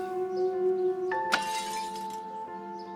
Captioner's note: glass breaking